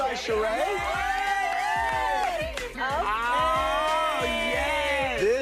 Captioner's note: clapping and cheers